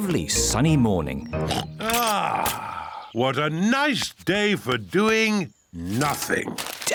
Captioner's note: oinks